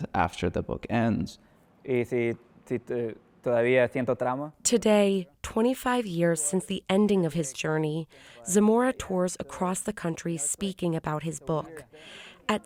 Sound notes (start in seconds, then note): 2.3 speaking Spanish